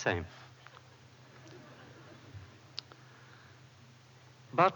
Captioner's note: laughter